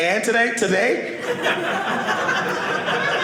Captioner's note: audience laughing